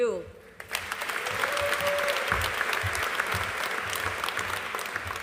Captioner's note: audience applauding